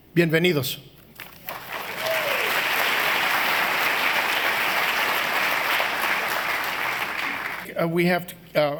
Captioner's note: applause